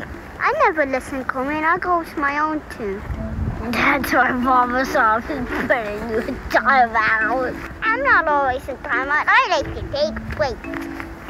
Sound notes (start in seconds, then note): 4.8 laughs